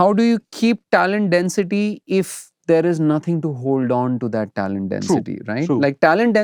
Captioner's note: snorts